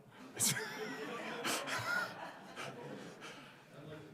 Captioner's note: crowd laughing